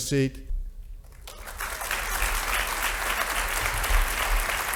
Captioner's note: audience applauding